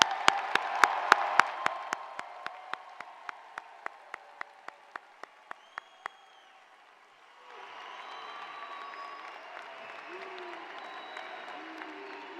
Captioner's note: applause